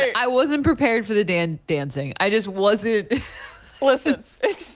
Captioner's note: laughter